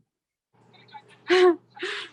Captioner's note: laughing